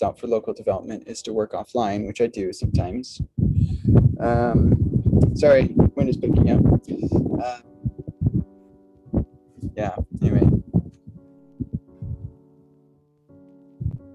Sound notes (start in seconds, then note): 3.1 wind blowing